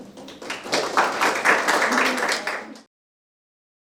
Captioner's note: applause